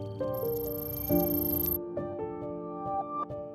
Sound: pensive music; electric beeping; pensive music

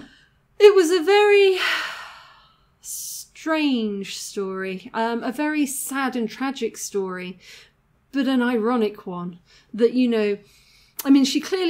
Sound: sigh

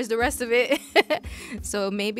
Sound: laughs

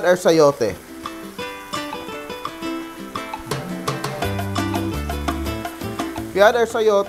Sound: sizzling sound

